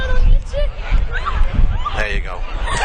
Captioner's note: laughter